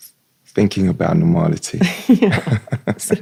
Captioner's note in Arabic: ضحك